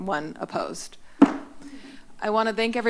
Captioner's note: gavel tap